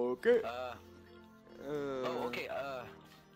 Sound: various uhs and ohs

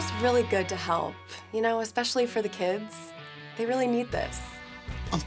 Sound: none

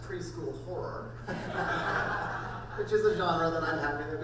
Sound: crowd laughing

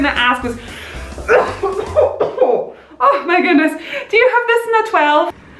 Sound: big ol’ cough

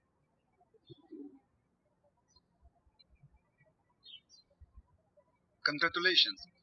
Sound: birds chirping

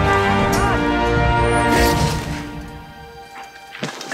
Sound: arrow swooshing

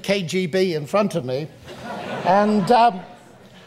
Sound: audience laughs

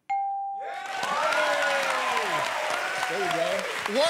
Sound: cheers and applause

